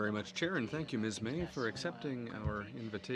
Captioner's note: speaking French